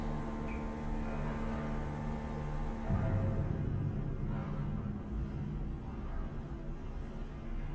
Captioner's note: pipes clanking; ominous music